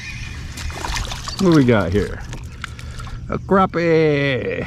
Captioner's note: birds chirping; water splashing